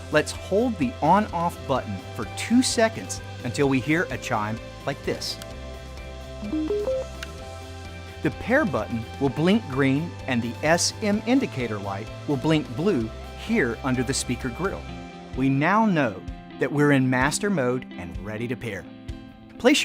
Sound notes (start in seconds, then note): 6.4 three tone low-high chime